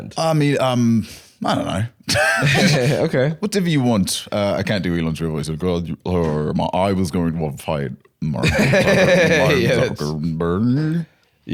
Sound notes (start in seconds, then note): 0.8 normal voice; 2.1 both laughing; 6.0 slurring; 8.4 laughing